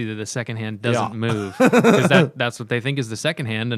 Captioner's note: laughter